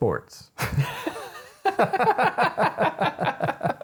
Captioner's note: laughing